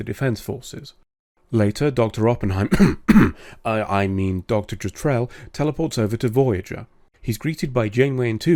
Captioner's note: cough